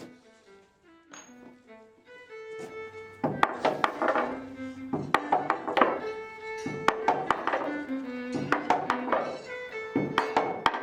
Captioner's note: hammering rhythms